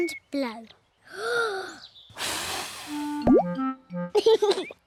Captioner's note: takes big breath and blows; laughs